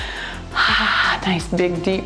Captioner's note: breathing heavily